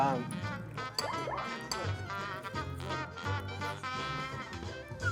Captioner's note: nom nom